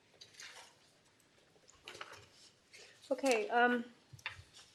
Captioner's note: shuffling